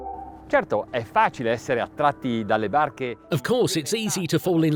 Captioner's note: speaking foreign language